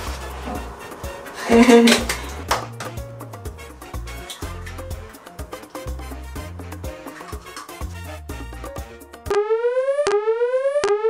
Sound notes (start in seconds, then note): 1.4 giggling